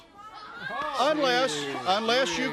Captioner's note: crowd cheering